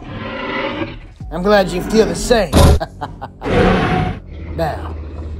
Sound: Omega Rex huffing

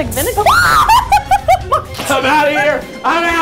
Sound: can hisses; lady screams

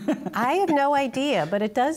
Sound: laughter

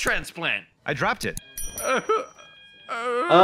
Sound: character in blue sobs

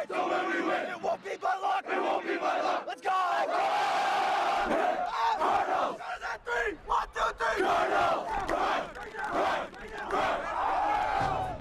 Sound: chanting

